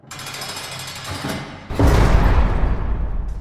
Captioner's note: jail door slams